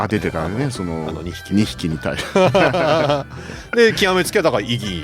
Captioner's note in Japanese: 笑い